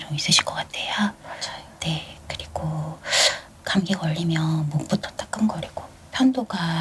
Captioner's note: gasp